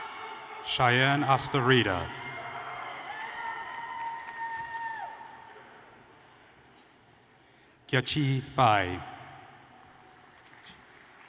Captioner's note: cheers and applause